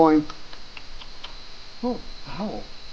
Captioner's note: animal noises